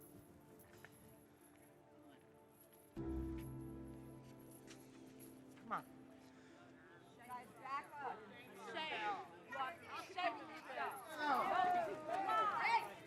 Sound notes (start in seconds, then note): 11.2 people chattering